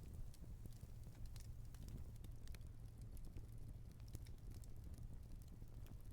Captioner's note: fire crackling